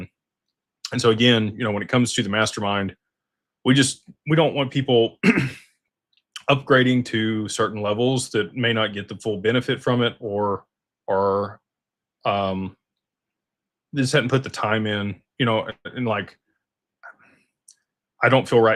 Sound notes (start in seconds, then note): 5.2 clears throat